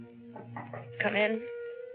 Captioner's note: knocks on door